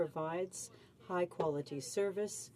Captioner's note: speaking french